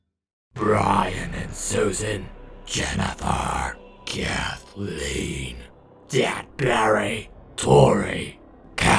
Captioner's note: In a Mummy Ganondorf voice